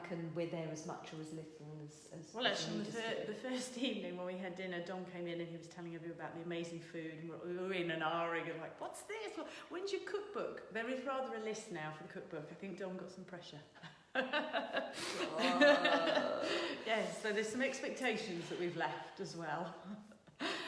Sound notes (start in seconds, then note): 14.1 laughing